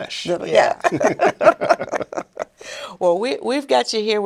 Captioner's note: all laughing